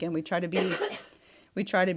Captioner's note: coughs